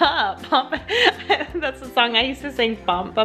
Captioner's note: laughs